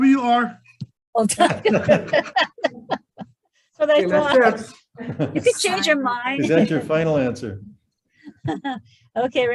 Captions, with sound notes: - All right WR. (all laughing) - It makes sense. - So that's what? You can change your mind. - Is that your final answer?